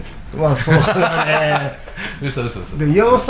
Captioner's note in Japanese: 笑い